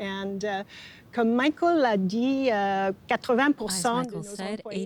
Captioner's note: speaking French